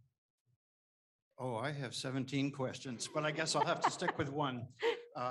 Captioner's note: all laugh